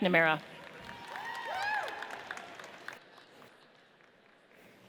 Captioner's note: audience cheers